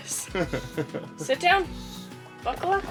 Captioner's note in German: lacht